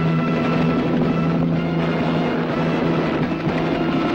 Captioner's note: helicopter roaring